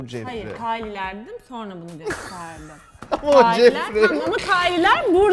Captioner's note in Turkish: güler